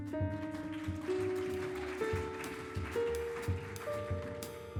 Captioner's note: audience applauding